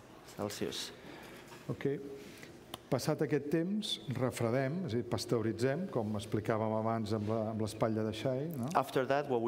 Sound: speaking catalan

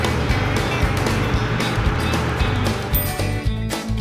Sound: upbeat music; dryer blowing; bell chimes

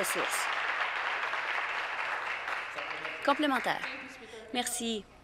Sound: applause

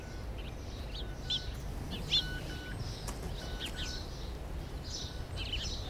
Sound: car alarm sound

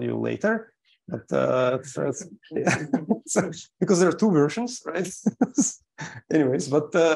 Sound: laughs

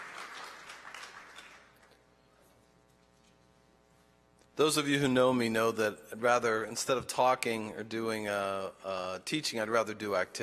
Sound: applause

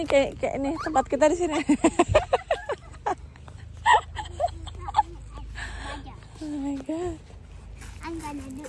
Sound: laughs

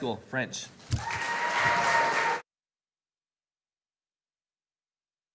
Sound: audience applauding

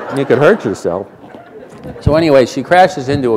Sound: laughter

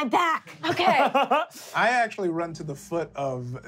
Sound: laughing

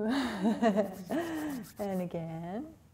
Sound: gentle laughter

